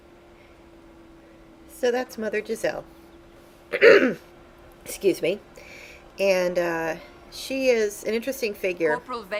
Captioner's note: clearing throat